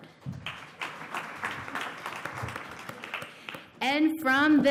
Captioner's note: applause